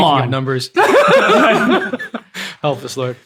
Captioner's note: laughing